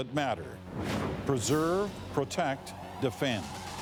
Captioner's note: cheering